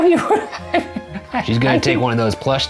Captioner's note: giggles